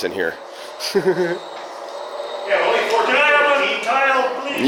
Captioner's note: laughs